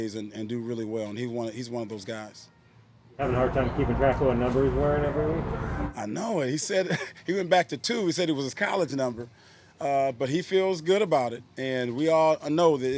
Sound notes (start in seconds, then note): 6.7 laughs